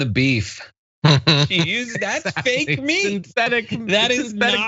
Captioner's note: laugh